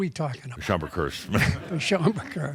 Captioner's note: some laughter